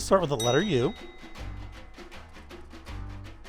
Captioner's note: bell dings